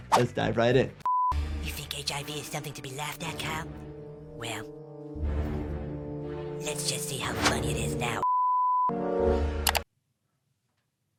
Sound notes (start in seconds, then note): 8.2 beep; 8.6 dramatic music